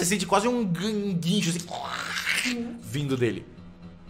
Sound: squeal; growls

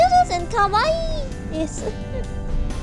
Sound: laughs

